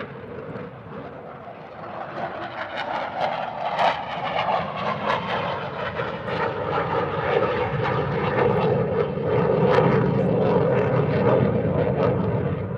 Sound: airplane engine

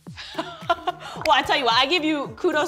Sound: laughs

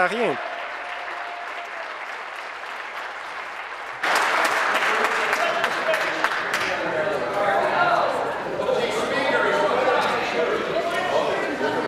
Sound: applause

